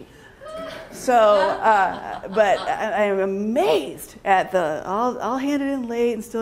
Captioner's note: laughter